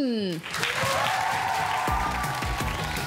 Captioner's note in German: Jubel